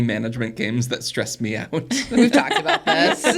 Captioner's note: laughs; everybody laughs; laughs